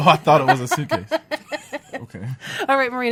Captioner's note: laughs